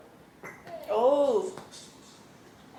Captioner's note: burp!